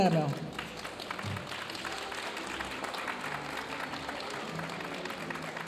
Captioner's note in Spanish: aplausos de la audiencia